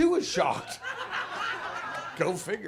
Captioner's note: audience laughs